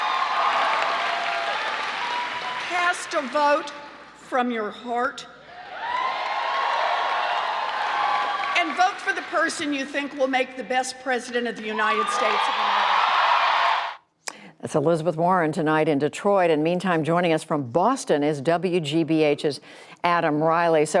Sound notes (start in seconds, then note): 5.5 cheering and applause; 13.1 cheering and applause